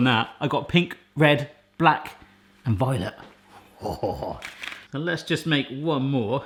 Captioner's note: laughs